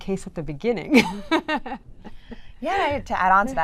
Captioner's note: laughs